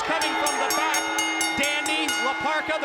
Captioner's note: bell rings